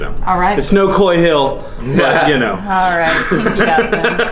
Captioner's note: all laugh